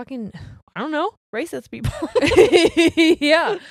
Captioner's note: both laughing